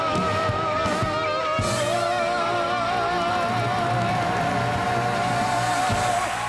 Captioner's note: audience applause